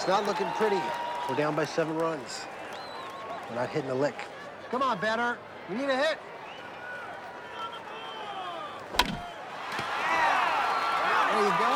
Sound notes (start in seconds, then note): 8.9 bat hits ball